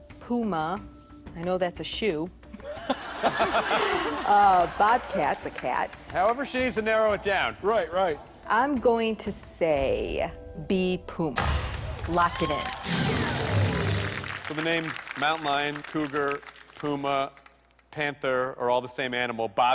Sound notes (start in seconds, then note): 2.6 laughs